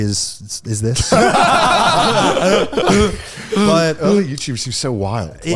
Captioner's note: all laughing